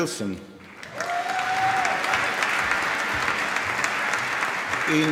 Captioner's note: applause